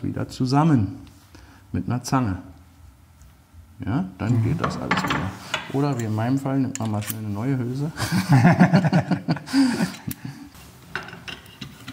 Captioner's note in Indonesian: tertawa